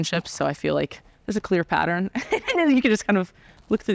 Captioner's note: laughing